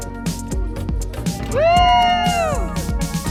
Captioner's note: cheering